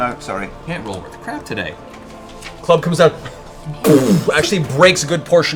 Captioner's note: impact sound